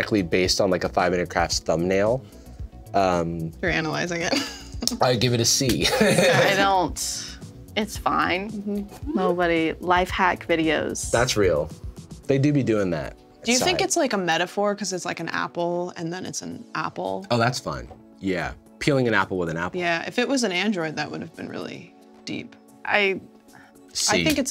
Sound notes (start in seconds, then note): 5.8 laughs